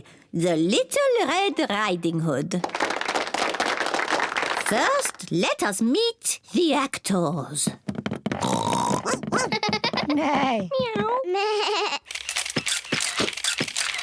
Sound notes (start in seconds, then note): 2.6 applause; 8.4 all make animal noises; 12.0 camera shutters clicking